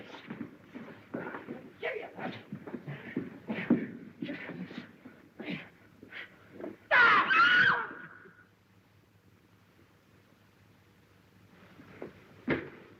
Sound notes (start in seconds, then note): 6.8 scream; 6.8 yell